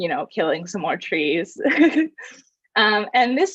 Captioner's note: laughs